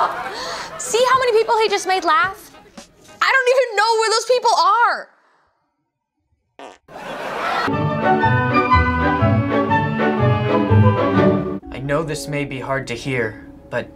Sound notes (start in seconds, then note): 6.5 farting; 6.9 laugh track